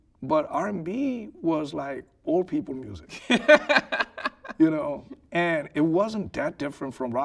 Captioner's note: laughing